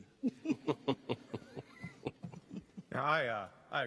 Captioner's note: chuckling